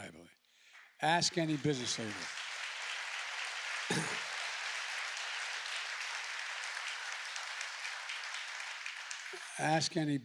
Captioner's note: applause